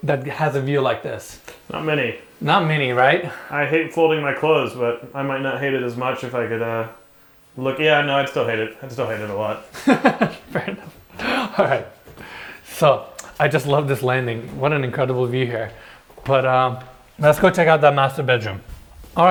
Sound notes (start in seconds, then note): 9.7 laughs